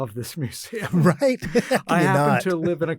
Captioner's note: laughs